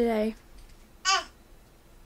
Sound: baby chirp

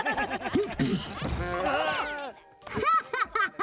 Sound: laughing; screaming; laughing

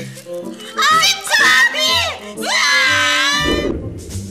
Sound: both scream

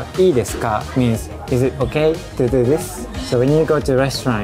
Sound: speaking in Japanese

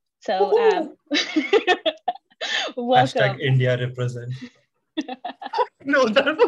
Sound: laughter

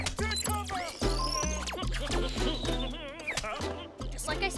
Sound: humming

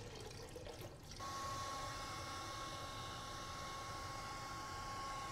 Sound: dryer whirring

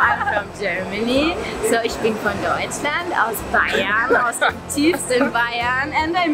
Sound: speaking foreign speaking

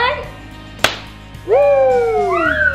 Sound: firework pops; cheering

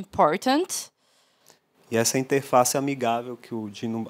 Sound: non-english speech

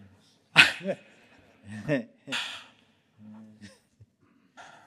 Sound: chuckles

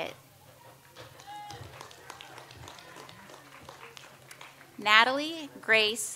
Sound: audience applauds

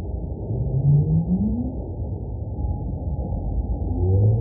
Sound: whales singing

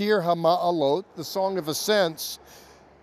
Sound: speaking Hebrew

